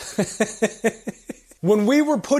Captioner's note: laughter